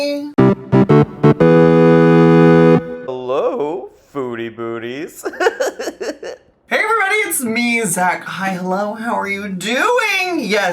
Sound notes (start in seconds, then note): 0.3 playful digital music; 5.1 laughs